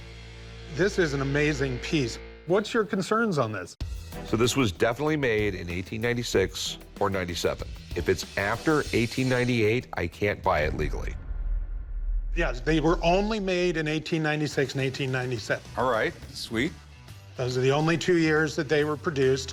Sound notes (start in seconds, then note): none